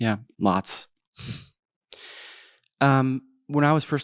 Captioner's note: chuckles